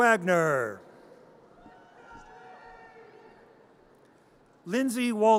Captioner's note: audience cheers